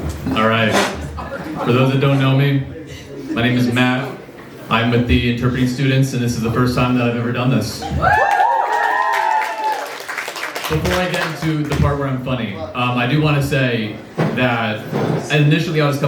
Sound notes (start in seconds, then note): 7.9 cheers from the crowd